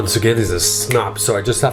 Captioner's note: snaps